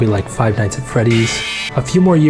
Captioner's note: Freddy yelling